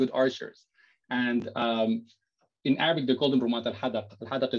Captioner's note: non-english speech